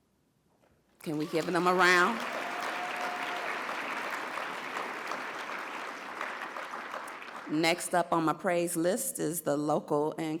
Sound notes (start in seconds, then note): 2.8 audience cheers and applauds